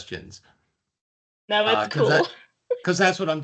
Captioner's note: chuckling